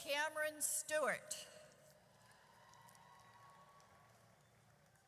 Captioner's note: audience cheers